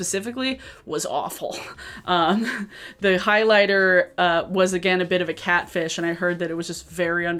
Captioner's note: chuckles